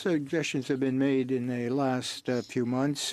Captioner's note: speaking French